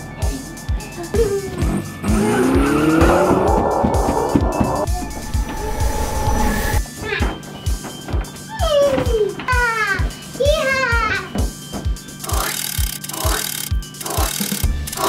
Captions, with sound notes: (upbeat music playing) (car engine) (gorilla growling) (electric static crackles) (upbeat music) - Yeehaw, yeehaw! (cranking)